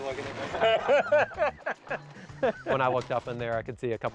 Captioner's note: laughter